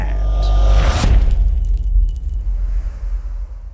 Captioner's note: impact